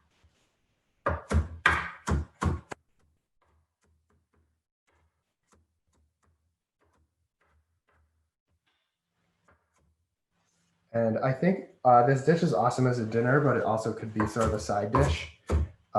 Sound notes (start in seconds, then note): 0.7 silence